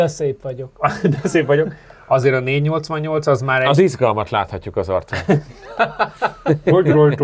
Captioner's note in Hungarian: nevetés